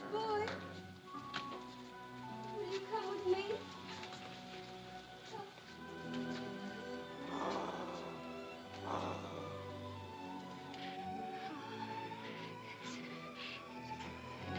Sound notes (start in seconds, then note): 4.8 Mowgli growls; 4.8 sentimental music; 14.4 dramatic music